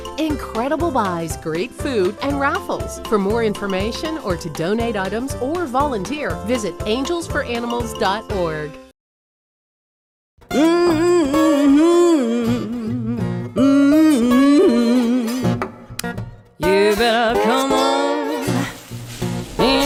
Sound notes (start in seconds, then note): 10.5 humming